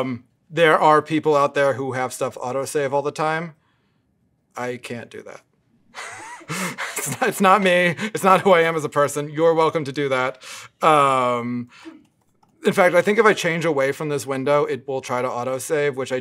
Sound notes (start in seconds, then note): 5.9 laugh